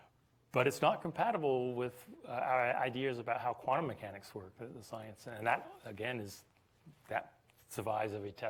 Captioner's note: none